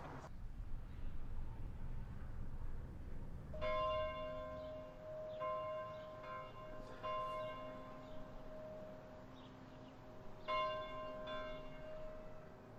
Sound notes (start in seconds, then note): 3.5 church bell